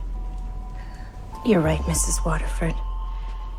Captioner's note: voiceover